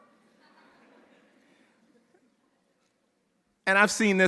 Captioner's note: audience laughing